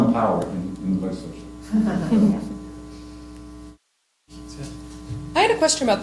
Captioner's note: laughter